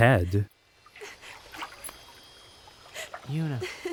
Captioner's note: crying softly